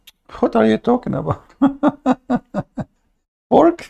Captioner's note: Ketawa